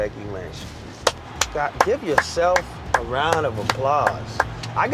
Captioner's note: applause